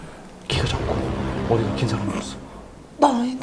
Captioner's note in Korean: 빰, 웅장한 효과음